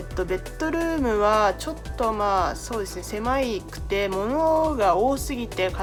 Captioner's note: speaking in foreign language